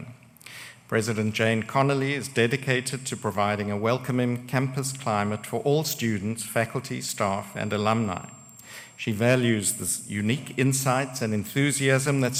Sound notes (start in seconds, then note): none